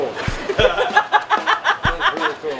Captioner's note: laughs